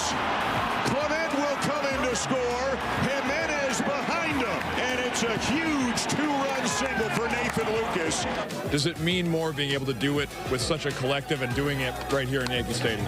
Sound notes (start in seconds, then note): 5.5 applause